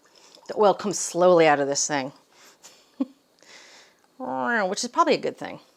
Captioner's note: chuckles